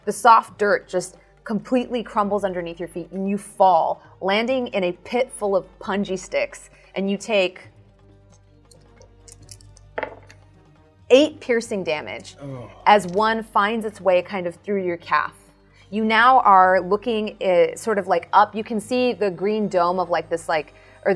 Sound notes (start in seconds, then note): 9.9 dice thudding; 12.4 groans